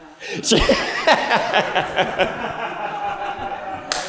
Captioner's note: laughter